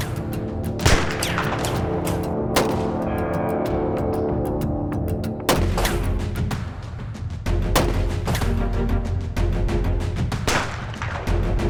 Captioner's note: gunfire continues